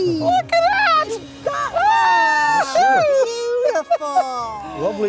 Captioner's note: screaming